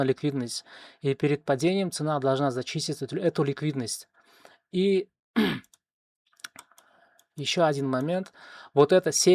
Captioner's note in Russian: откашливается